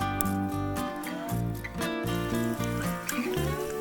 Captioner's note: sound of bacon sizzling